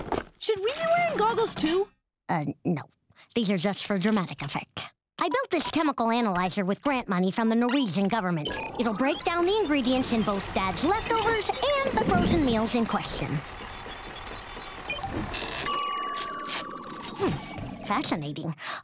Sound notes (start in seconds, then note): 13.4 beeping; 15.6 dinging